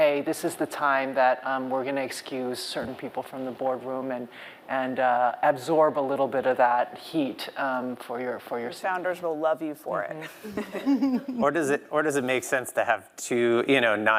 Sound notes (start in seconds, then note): 10.3 laughs